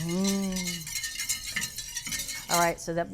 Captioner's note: whisk rattles